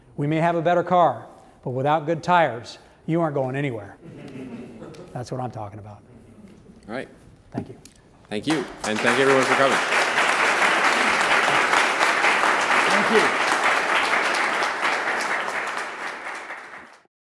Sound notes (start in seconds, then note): 4.0 laughter; 10.8 applause